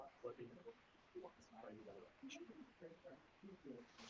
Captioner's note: murmuring